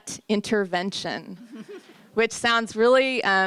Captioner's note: polite laughter